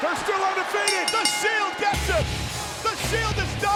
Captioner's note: bell rings